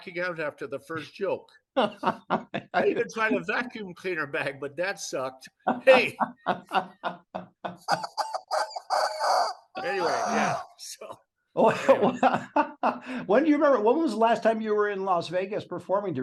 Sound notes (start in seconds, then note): 5.6 laughs